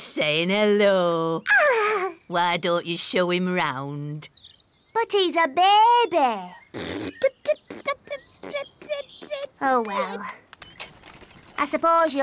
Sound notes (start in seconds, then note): 8.4 rasps / babbles